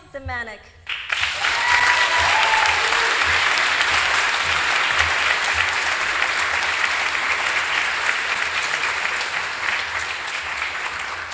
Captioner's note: applause